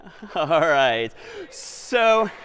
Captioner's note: laughs; applause